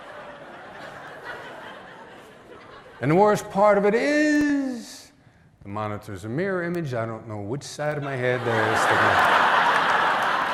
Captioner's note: laughter